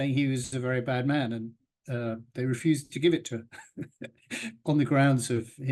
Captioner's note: laughs